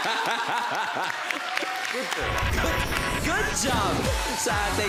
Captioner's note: laughter; crowd cheers, applauds